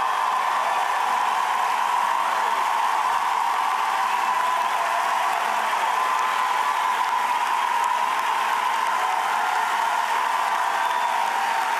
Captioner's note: cheers and applause